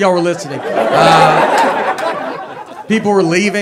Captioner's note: audience laughs